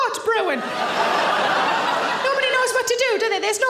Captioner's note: audience laughing loudly